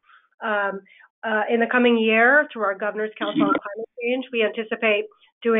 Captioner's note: sound distorts